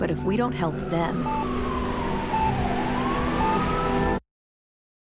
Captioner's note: beeping, siren blaring; silence